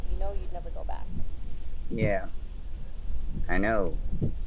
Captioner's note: engine rumbling